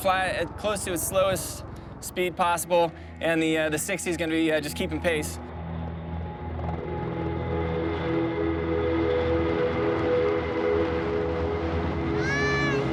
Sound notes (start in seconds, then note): 6.7 engine whirring